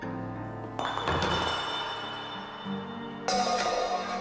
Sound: glass bouncing

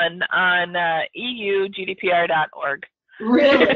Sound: laughs

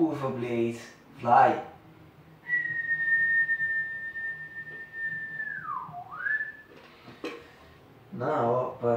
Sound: whistle

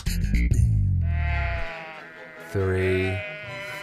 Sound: upbeat music; sheep bleat; classical violin music

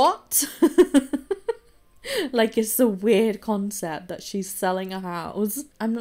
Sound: laughs

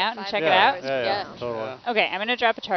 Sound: crew members agreeing

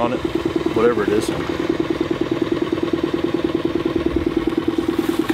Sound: boat engine humming

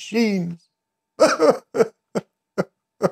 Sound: cries

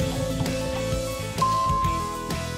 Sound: dinging

